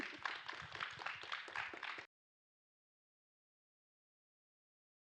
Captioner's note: attendees applauding